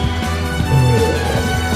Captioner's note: bloop; Pundo exclaims; SCREAM in EXPLOSION